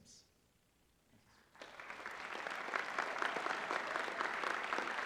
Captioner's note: applause